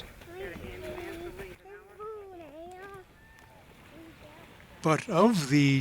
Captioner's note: kids walking